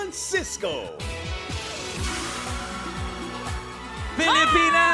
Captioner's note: upbeat music playing; cheering